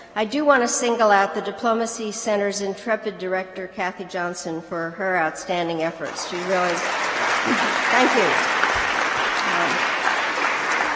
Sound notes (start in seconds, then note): 6.0 applause